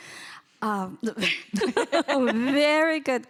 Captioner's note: laughing